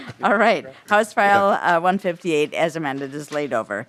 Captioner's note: laughing